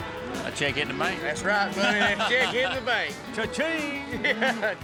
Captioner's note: laughs